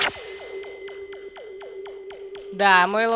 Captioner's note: teleportation rustling; various device sounds